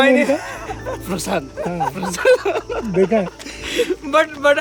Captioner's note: all laughs